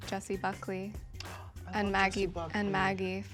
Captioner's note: gasps